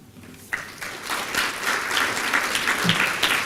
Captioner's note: applause